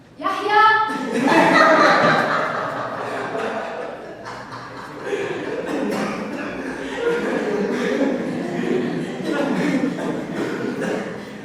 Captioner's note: laughs!